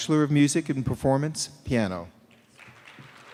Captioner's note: cheers and applause